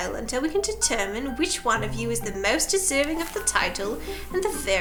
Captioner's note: none